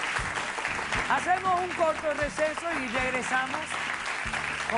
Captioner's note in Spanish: Aplausos